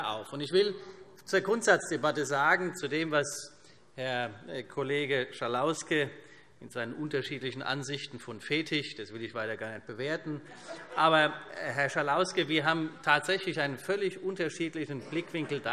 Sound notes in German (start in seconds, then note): 10.5 Vereinzelte Heiterkeit